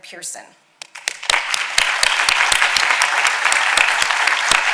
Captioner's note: audience applauding